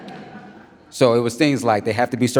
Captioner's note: audience laughs